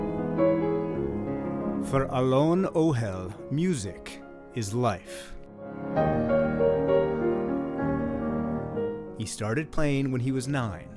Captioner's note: voice-over